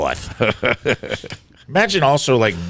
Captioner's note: laughing